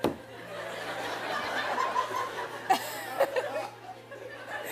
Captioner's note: laughs; laughter